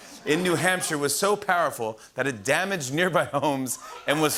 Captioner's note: chuckling